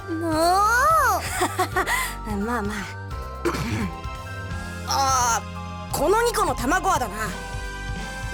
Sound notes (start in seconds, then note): 1.2 awkward laugh; 3.4 clears throat